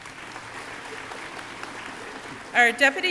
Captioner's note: audience clapping